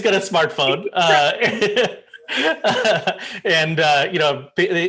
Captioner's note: laughter